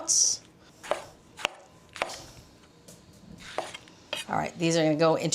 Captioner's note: knife slicing